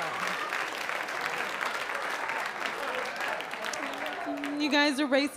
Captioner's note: applause